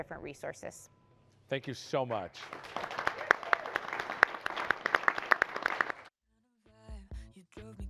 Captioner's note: applause